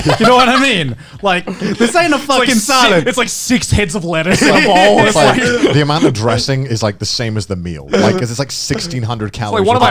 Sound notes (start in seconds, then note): 0.0 laughing; 4.2 laughing